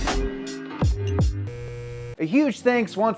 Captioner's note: buzz